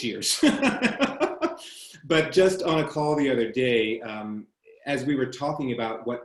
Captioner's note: chuckles